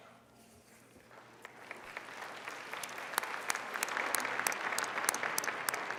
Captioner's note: applauding